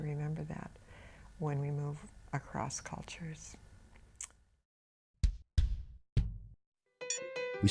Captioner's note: bells chiming